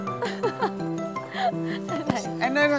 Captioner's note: laugh